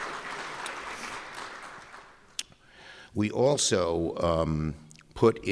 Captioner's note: applause